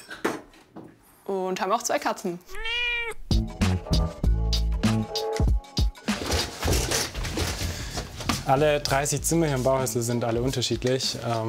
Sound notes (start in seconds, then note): 2.4 meowing; 3.6 relaxed music